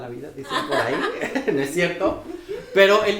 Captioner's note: laughs